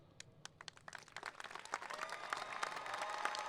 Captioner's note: applauding